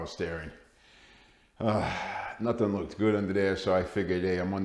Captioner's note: sigh